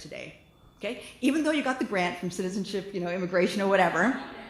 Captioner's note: laughter